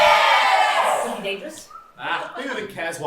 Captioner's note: audience yelling ‘KISS!’